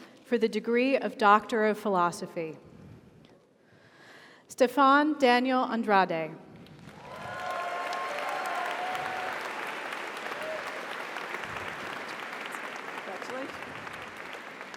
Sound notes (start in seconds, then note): 6.7 audience applauds; 6.9 audience cheers